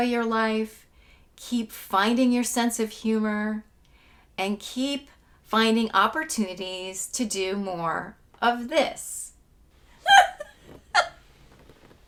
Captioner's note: laughing